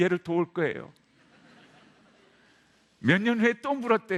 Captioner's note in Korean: 웃음